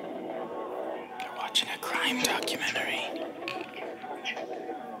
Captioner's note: whispers